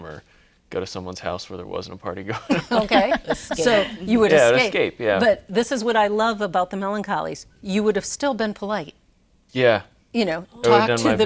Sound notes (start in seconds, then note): 2.3 laughs